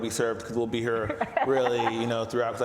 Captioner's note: laughs